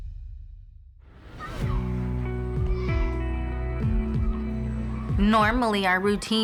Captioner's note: children chattering